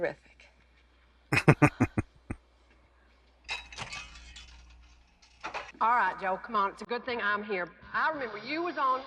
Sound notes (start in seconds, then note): 1.3 chuckling